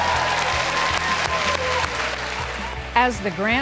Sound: applause

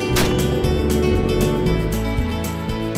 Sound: gunshots; boat motor; wind rustling

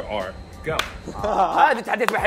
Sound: groans

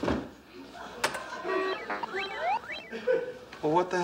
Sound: computer beeps

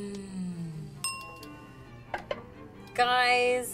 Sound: bell ringing

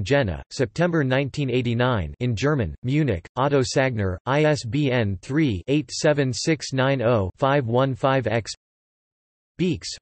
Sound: in German

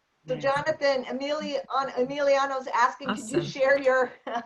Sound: laughter

